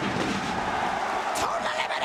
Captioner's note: crowd cheering